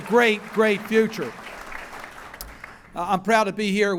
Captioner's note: applause